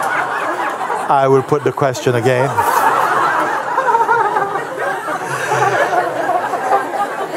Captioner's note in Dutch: gelach; gelach